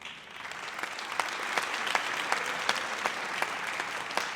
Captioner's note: audience applauds